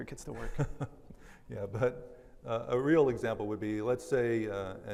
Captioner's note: laughs